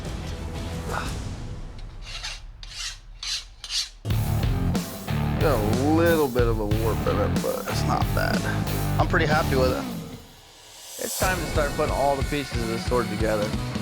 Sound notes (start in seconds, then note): 1.8 grinding